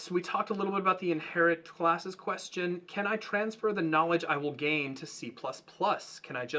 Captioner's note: none